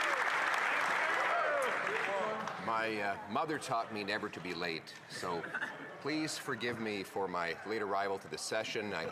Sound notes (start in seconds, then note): 2.9 some Applause